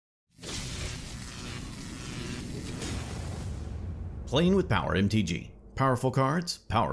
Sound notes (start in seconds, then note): 0.4 logo buzzing